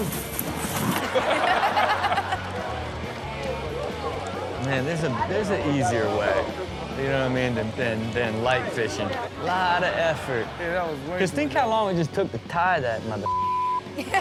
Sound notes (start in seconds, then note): 8.5 audience laughs